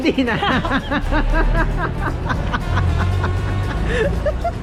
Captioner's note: laughing